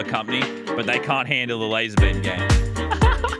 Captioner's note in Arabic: يضحك; موسيقى مبهجة